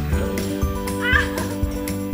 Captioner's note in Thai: เสียงหัวเราะ